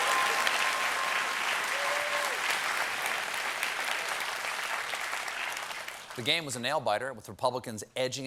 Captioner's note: applause